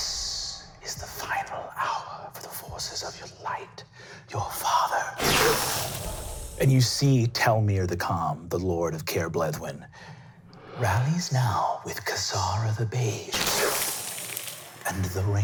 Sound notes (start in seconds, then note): 5.7 inhaling; 14.4 inhaling